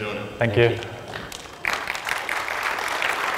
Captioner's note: applause